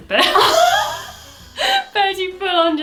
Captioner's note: both laugh